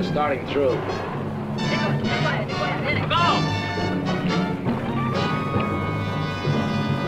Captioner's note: men speaking in Spanish